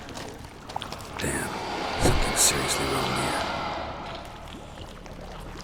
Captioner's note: liquid sloshing; ghostly noises